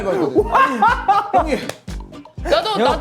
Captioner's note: laughing